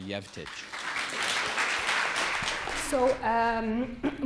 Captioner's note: audience applauding